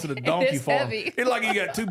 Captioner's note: laughs